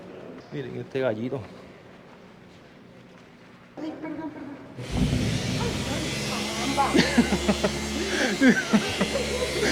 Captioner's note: laughs